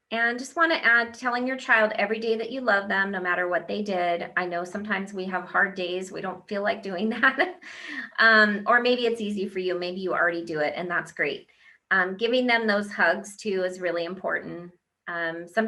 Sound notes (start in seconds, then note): 8.1 laughs